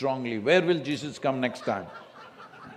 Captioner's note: laughter